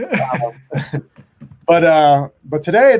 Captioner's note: both laughing